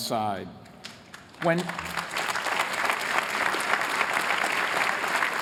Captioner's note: applause